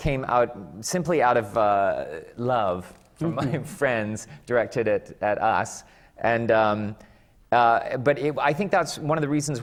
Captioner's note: laughs